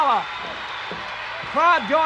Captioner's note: audience cheers